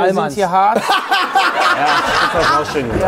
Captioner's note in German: Gelächter